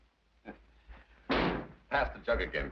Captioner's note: door slams